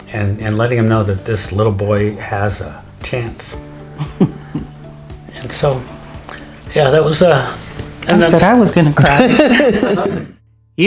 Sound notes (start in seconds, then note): 3.9 laughs; 8.9 laughing